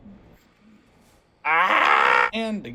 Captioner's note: screaming